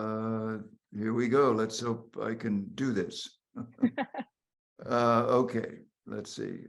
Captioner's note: laughing